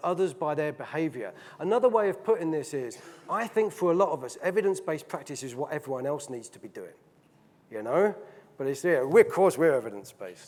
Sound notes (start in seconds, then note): none